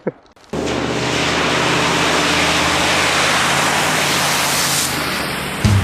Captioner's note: laughs; splash